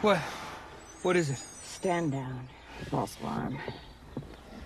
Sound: sighs

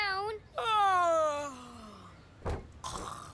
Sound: fake yawning

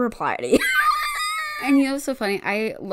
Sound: wheeze laughs

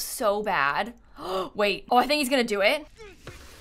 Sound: gasps

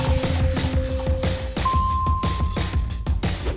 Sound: dinging

